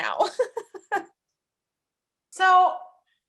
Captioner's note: laughing